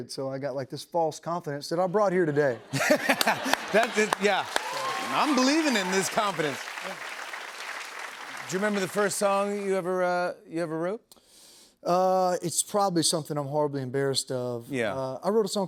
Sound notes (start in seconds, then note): 2.6 laughter, applause; 4.2 cheering, applause